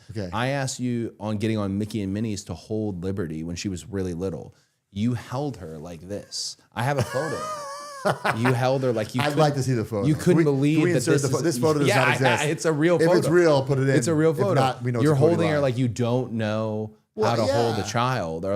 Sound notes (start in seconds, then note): 6.8 Matt laughing